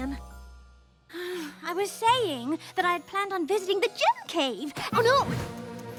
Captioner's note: sigh